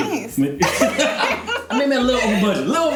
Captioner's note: laughing